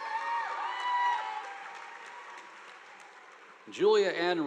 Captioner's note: audience applauding